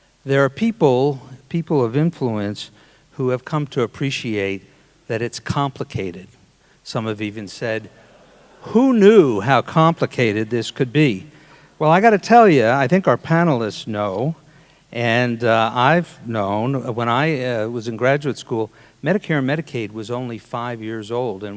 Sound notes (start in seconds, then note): 7.0 audience laughing